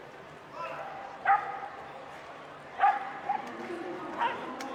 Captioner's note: dog barking